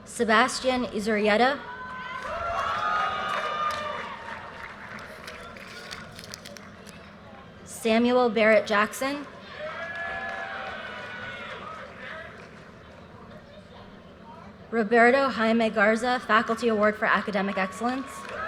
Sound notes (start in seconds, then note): 1.6 audience cheers and applause; 9.4 audience cheers and applause; 17.4 audience cheers and applause